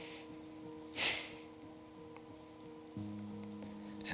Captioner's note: sighing heavily